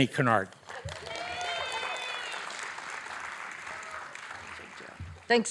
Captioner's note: audience applauding